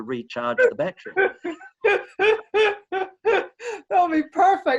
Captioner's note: laughing